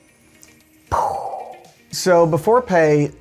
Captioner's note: imitating explosion